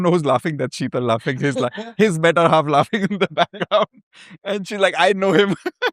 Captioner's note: laughter; laughter